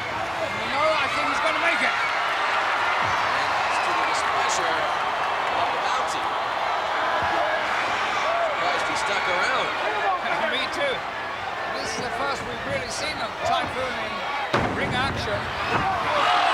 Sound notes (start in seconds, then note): 10.6 laughs; 14.4 body thudding